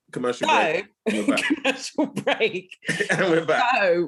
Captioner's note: laughing